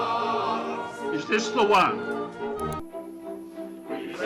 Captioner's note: mouse click